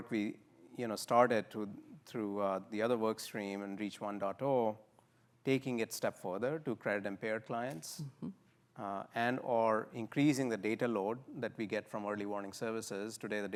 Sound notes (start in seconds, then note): none